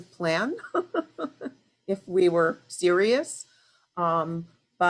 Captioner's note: laughs